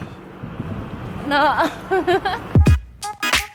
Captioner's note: giggles